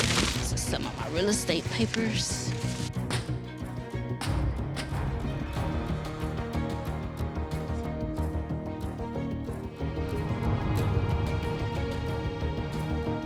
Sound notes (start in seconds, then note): 3.0 feet thudding; 6.9 gentle music